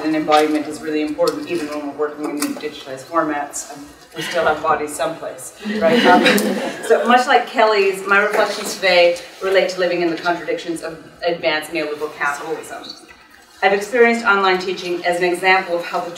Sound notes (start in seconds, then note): 5.7 audience laughing